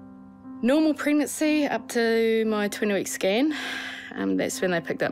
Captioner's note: sighs